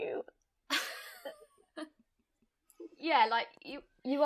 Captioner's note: all laughing